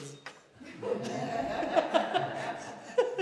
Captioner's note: laughter